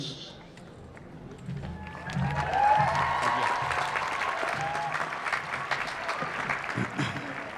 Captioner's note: applause